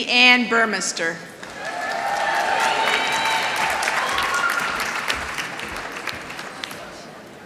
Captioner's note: applause